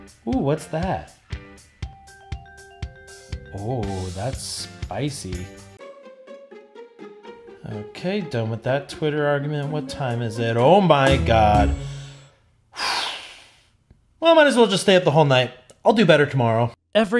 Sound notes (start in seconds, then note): 1.7 upbeat music; 12.8 sighs